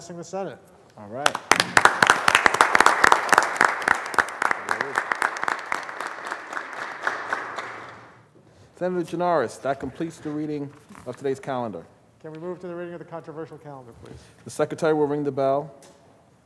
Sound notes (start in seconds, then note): 4.0 applause